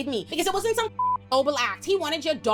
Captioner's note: beep